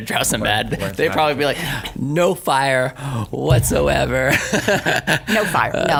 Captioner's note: laughs; laughs